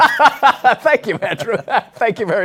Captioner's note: laughs